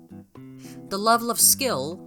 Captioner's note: inhales like the hemogoblin homonculous he is